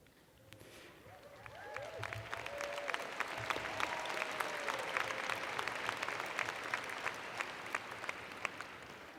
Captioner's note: cheers and Applause